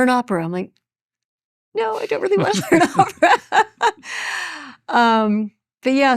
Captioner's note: chuckles